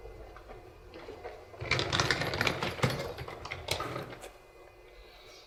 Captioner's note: suitcase wheels roll on the floor